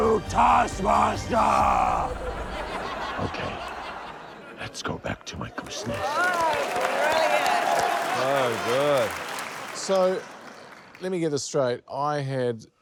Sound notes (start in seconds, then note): 5.6 cheers, applause